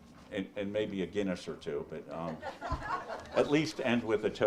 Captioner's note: audience laughs